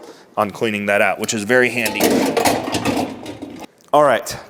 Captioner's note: metal clattering